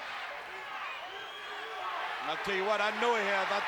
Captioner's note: applause